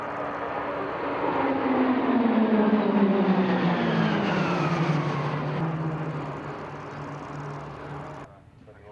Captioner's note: PC21 aircraft sounds